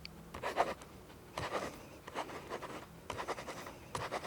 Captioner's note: pen scribbling